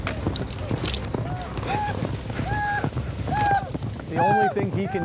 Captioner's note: pawnee war cries